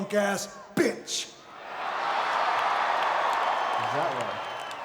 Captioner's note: crowd cheering